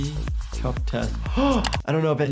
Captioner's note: gasps